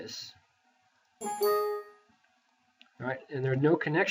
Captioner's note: computer chimes